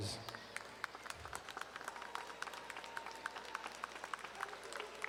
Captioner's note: audience applauding